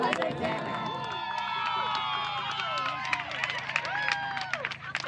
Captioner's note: cheers